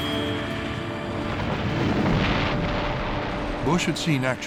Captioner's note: explosion echoes